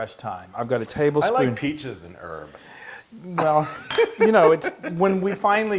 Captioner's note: laugh